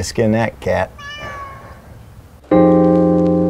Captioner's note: cat meows